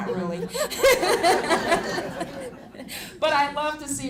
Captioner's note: laughter